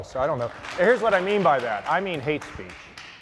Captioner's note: applause